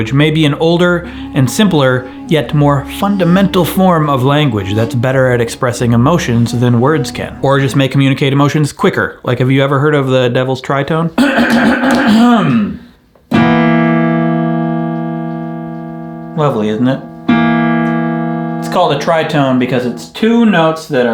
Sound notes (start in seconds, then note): 11.2 clears throat loudly; 13.4 plays dissonant chord